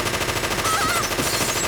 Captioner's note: gunshots; screaming